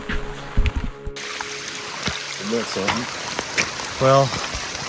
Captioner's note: rain pattering